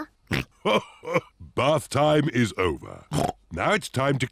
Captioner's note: laughs; snorts